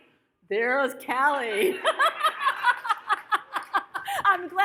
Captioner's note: audience laughs; laughs